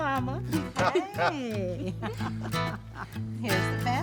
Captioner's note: laughs